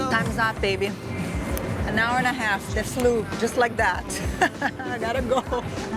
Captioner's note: laughs